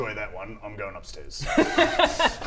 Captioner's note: laughs